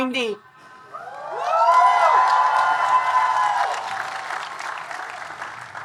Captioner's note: audience cheering and applauding